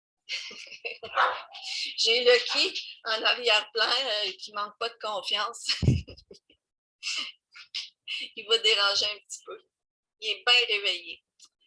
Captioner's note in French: Rire